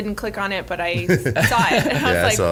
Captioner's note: everyone laughs